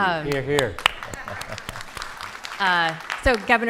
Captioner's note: audience applauding